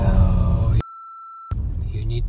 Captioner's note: beep